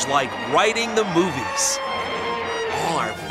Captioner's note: King Kong roaring